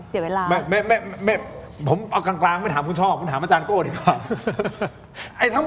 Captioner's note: laughs